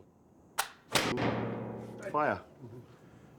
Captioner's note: click, bang!